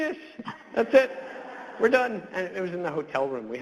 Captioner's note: audience laughs